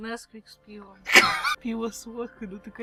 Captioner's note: wheeze